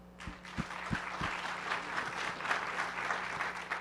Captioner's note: applause